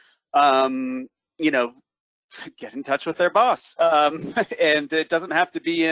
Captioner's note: chuckles